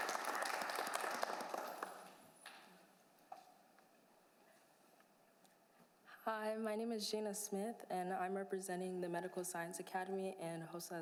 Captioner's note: applause